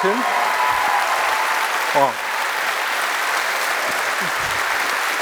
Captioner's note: applause